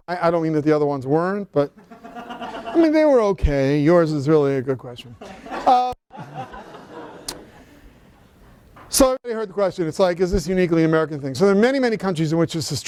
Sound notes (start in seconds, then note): 5.2 laughter